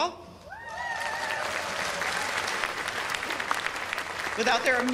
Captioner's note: cheers and applause